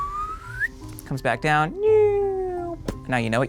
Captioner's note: whistles; hums